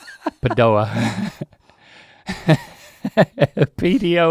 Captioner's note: laughing